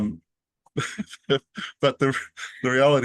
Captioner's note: laughs